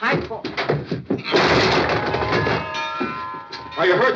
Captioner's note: gasps